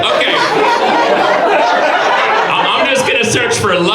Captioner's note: audience laughs